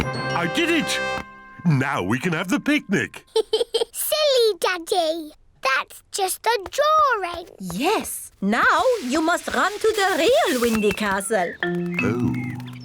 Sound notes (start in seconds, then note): 3.2 giggles